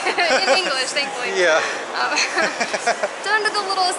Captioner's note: laughter